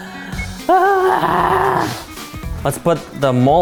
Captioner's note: screams